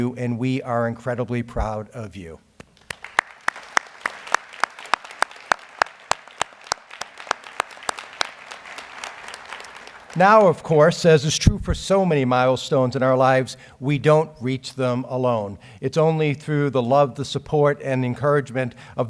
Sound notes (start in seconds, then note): 2.7 audience applauds